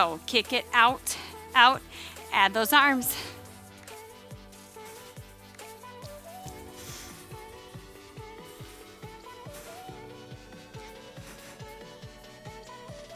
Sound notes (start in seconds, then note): 4.0 breathes; 4.0 soft upbeat music